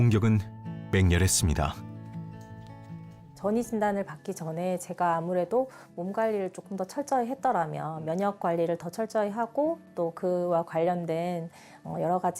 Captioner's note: voiceover